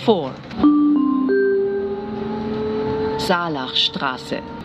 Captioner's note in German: Gong